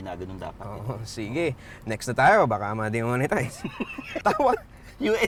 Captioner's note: laughs